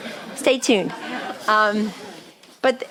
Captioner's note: chuckling